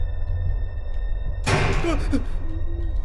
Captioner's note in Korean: 쾅!